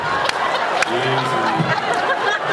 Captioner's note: laughs